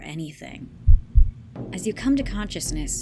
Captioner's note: heartbeat sound effect